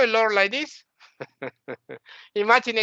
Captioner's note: laughing